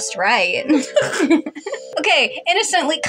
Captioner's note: giggle; chortle